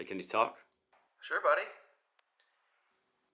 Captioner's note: Marco On Phone